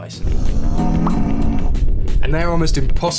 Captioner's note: intergalactic moo